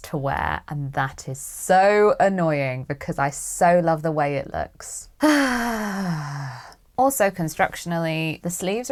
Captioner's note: sighs